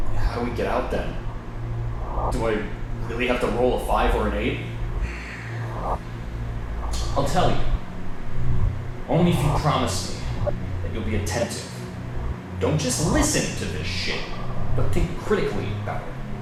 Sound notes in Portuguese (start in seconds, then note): 5.0 NOUTH NOUTRE suspira